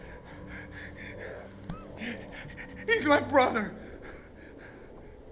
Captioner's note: panting